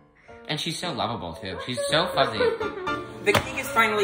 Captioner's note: makes woo noise